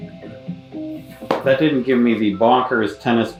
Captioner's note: laptop clacks